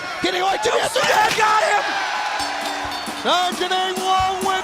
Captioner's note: bell ringing